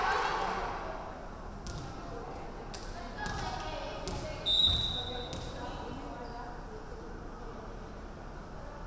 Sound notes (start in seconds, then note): 4.4 referee whistling